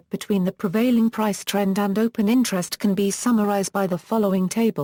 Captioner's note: Italian